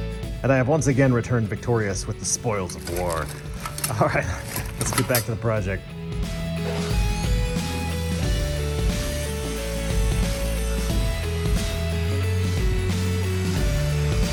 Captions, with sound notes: and i have once again returned victorious with the Spoils of War. [chuckles] All right, let's get back to the project. [obnoxious screeching of a compound miter saw]